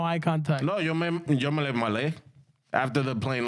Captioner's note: speaking In Foreign Language